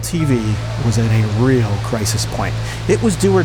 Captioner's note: signal hissing